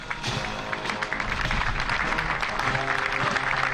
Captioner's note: applause